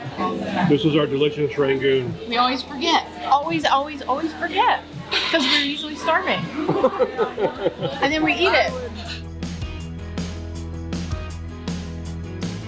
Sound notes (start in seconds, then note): 6.6 laughs; 9.9 upbeat music